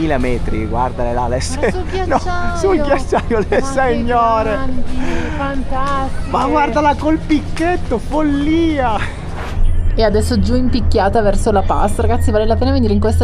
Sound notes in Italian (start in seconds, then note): 2.7 risate